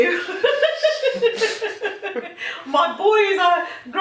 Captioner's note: laughing